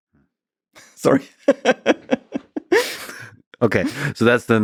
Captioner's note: laughs